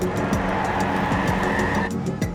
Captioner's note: tires screeching